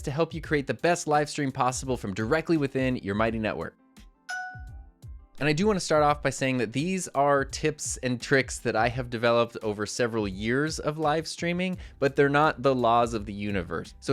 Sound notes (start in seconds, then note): 4.3 logo chiming